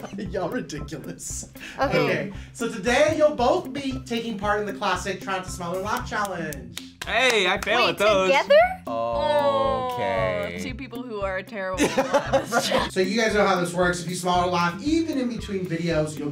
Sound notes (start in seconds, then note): 5.9 clapping; 11.8 laughs